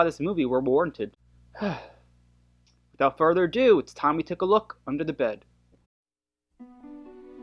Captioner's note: sighs